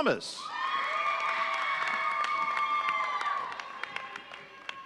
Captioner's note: audience cheering